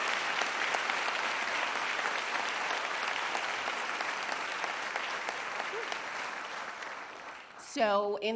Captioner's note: applause